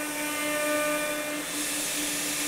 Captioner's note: machine noise